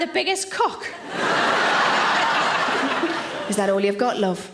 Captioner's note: audience laughing